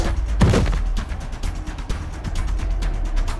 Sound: zombie snarls

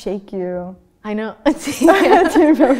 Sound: laughter

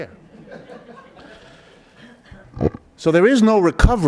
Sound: audience laughs

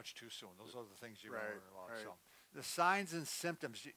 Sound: murmurs

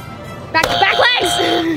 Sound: buzzes

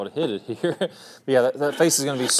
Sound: chuckling

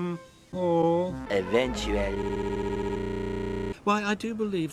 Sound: "Eventually" stuttering for some reason

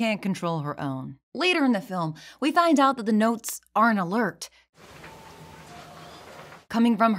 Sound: distant tone

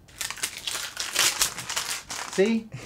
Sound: paper crumpling

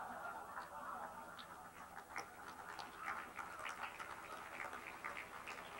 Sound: audience laughing; audience applauding

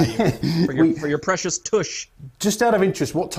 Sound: laugh

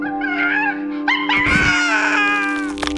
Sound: chimp screeches; screams

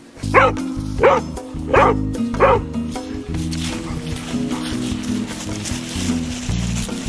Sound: bright music; dog barking

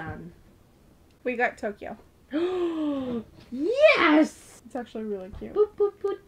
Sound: gasp

